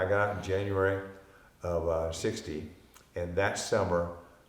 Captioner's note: none